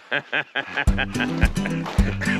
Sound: Conan laughing; bright music

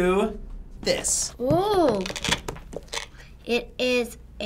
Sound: velcro unsticking

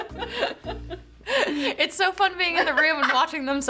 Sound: laughs

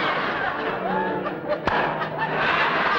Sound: pop

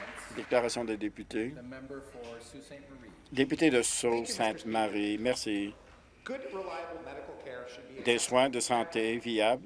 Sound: some applause

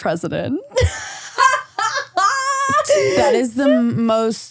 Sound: laughing

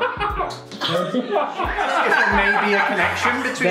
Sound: players laughing

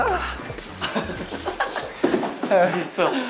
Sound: laughing by himself hahahaha

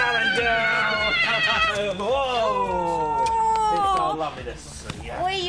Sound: both exclaiming

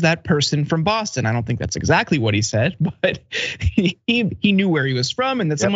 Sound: laugh

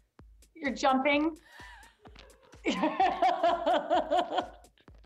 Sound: both laugh

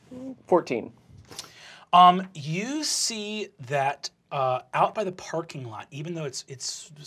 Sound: none

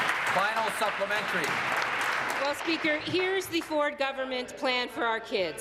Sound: applause

